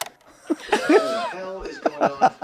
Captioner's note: they laugh